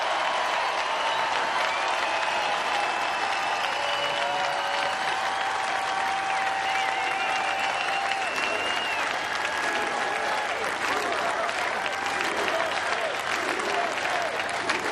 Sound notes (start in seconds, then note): 2.9 cheers and applause